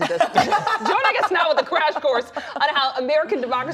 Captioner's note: laughter